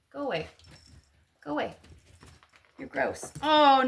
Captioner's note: jingling bell